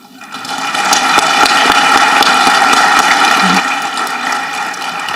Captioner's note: audience clapping